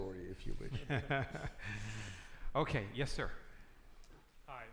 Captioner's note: laughs